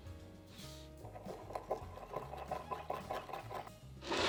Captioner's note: whisking